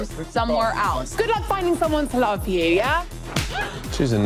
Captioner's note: gasps